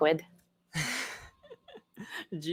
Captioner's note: chuckles